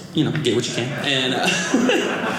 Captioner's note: audience laughing